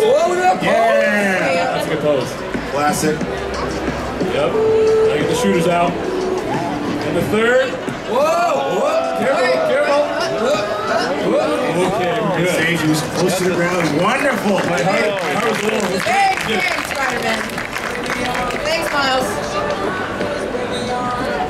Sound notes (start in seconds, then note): 4.5 audience chattering; 10.2 audience cheering; 15.8 audience clapping